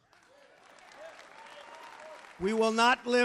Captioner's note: applause